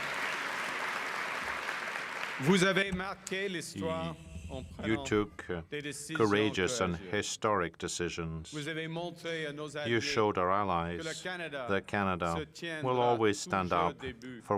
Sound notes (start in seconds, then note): 3.7 cheering and Applause